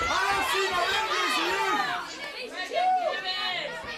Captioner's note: crowd cheering